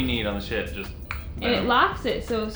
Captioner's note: mouth clicks